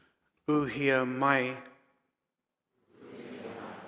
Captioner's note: speaking in foreign language; audience speaking in foreign language